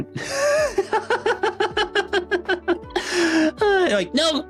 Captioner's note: laughing